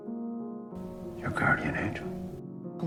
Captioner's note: voiceover